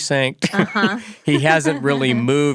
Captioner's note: both laugh